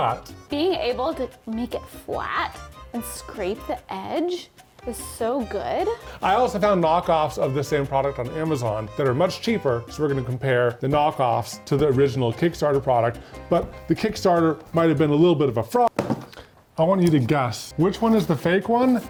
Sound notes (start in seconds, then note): 15.9 box clinking